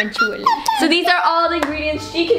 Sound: baby babbling

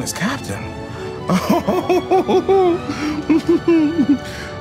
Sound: Jordan giggling

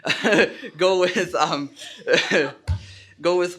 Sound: laughs

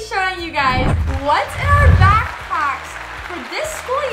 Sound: applause

